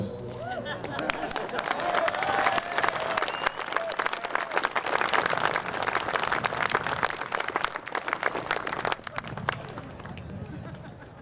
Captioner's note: applause